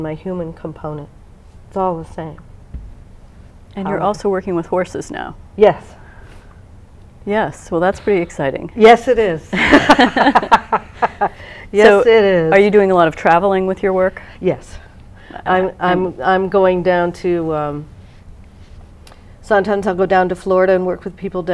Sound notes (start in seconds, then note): 9.5 laugh